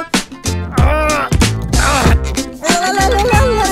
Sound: grunting in pain

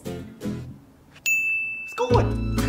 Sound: ding

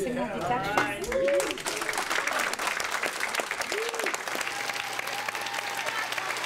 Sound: applause

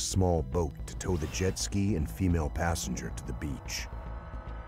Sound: voiceover

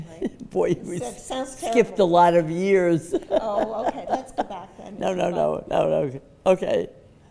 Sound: laughs

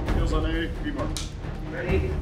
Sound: clap

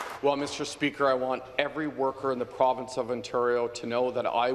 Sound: some Applause

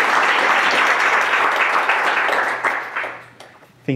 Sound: clapping

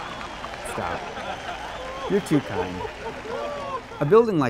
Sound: crowd cheers

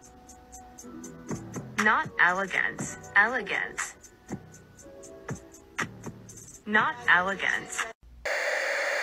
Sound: the same mind-numbing AI voice saying "elegant," "not elegant."

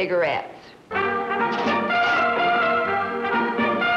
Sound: upbeat music; vending machine ejection

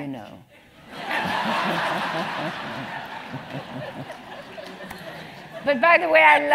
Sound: laugh

